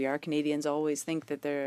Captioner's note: speaking French